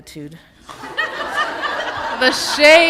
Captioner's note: laughter